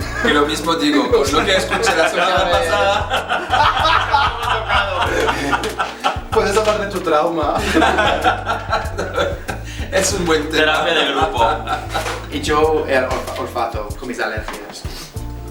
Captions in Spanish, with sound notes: Y también, con lo que escuché la semana pasada... [Risas] Puedes hablar de tu trauma. Es un buen tema. Y yo el olfato, con mis alergias.